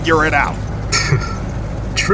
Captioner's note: Smoke chuckle